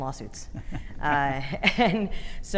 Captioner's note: chuckling